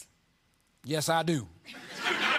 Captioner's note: laughter